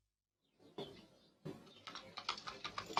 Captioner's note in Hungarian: madárcsicsergés